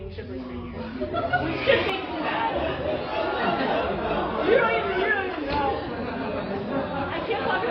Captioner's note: laughter